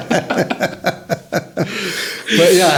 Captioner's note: laughing